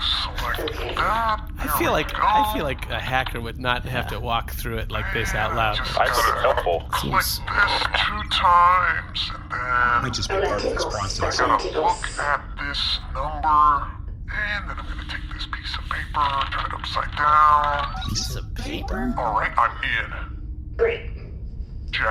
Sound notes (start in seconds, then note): 0.4 distorted voice; 5.5 distorted voice; 7.9 distorted voice; 12.2 distorted voice; 16.4 rustling noises; 17.5 beeps; 19.5 distorted voice